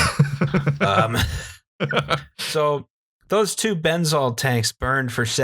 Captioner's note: laughter